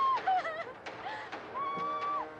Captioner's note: screaming